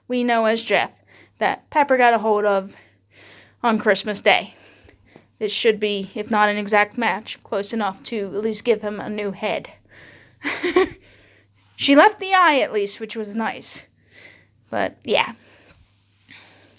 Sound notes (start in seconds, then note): 10.4 laughs